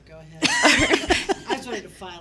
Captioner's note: all laughing